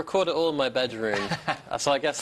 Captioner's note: laughs